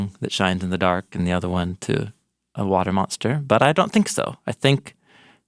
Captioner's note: none